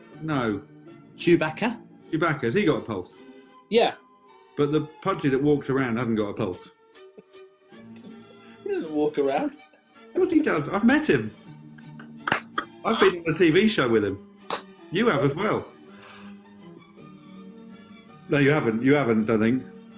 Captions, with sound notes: No. Chewbacca? Chewbacca – has he got a pulse? Yeah. But, the Pudsey that walks around hasn't got a pulse? He doesn't walk around! Of course he does – I've met him! [LAUGHING AND CLAPPING] I've been on a TV show with him. You have, as well. [GASPS] No, you haven't! You haven't, I don't think.